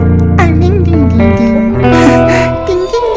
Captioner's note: Making baby sounds